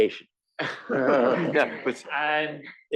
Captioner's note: laugh